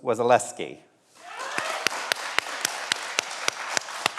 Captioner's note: everyone applauds